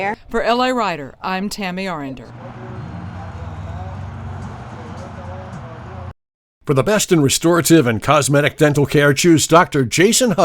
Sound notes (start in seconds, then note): 2.2 car rushing